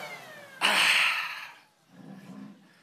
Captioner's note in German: seufzt